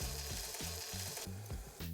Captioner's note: sizzling sound